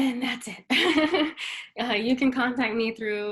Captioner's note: laughs